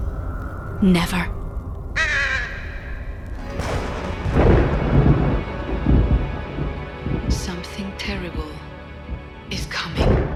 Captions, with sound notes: "Never." [crow caws] [thunder crashing] "Something terrible is coming."